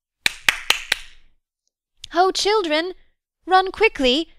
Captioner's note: she claps her hands